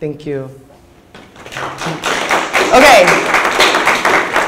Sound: audience applauds

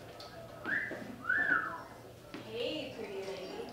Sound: wolf Whistle

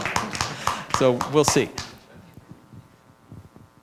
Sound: applause

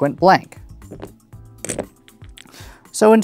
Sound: dominoes clattering

